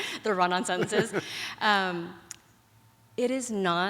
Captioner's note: laughs